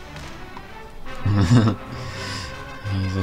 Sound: laughs

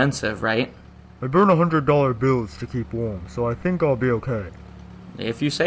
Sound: over phone

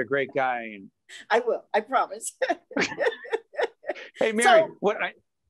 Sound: laughing

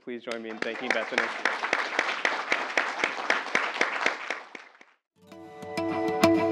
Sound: applause

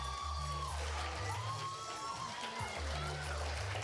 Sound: cheers and applause

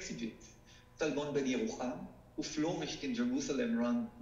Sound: speaking foreign language

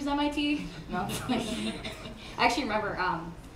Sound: laughing

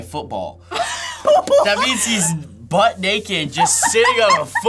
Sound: laughs

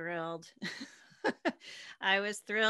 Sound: laughing

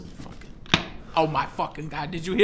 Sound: snap

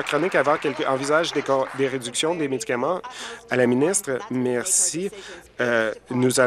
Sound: applause

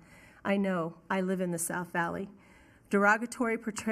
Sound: none

